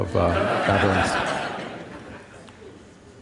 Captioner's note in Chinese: Laughter; 笑聲